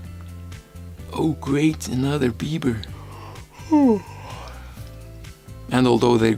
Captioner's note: yawn